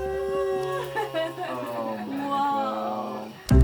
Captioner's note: team oohs